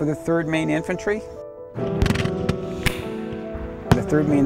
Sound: guns fire

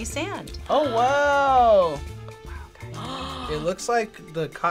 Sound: whispers

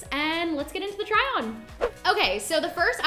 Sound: whooshing

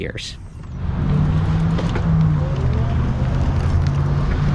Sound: car engine roaring

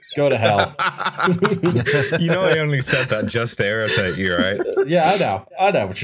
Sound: laughter

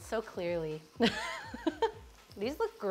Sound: laughs

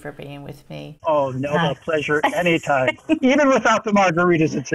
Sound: laughing

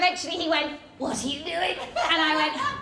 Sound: strangled voice

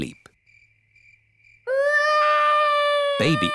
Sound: baby alexander crying

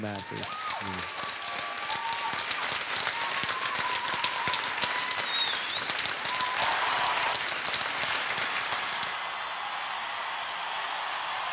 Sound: applause

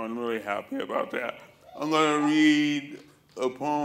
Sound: cheers

